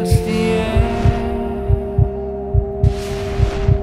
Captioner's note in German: Piepsen des Herzschlags